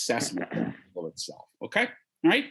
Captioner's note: speaking faintly